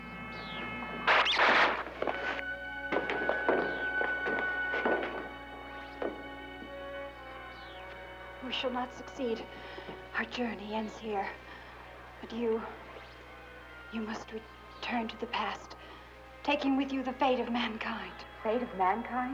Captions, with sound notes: [laser blast] We shall not succeed. Our journey ends here. But you-- you must return to the past, taking with you the fate of mankind. Fate of mankind?